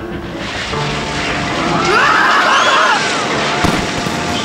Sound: screaming

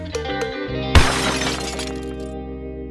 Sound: plucky string music; crashing noise

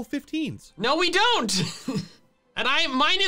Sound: laughs

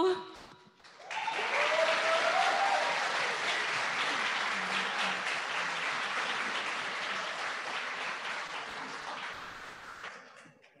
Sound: applause

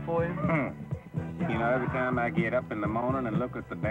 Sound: scoffs

